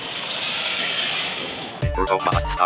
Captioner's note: robot whirring